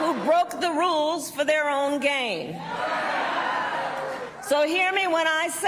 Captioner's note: cheers